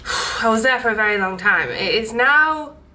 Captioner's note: exhales deeply